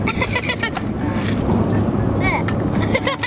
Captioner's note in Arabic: يضحك